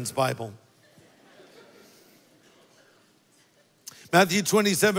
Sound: congregation laughs

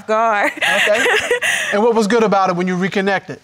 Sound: laughing

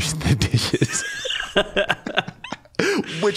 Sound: both laughing

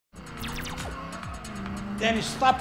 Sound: video game noises

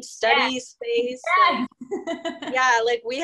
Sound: laughter

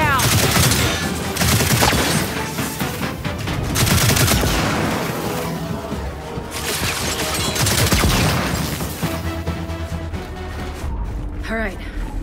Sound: gunfire

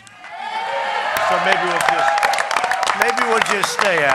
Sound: applause

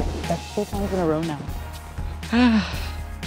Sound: sighs

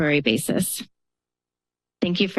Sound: pause

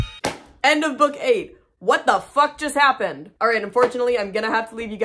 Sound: clap

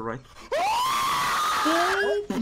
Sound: loud screaming

